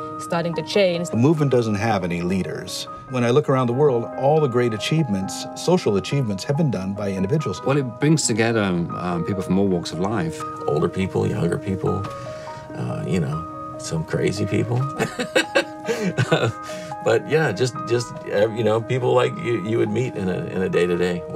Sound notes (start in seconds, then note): 14.9 laughs